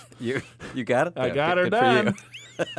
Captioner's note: laughs